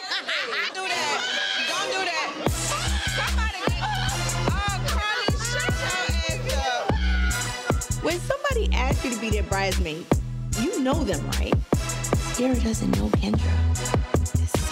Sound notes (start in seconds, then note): 2.6 blonde person laughing; 2.7 tense hip-hop music; 7.1 laughing